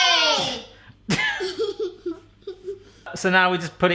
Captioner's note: giggling